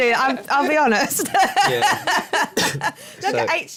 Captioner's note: laughter